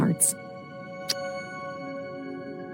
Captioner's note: smooch